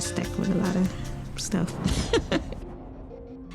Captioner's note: giggles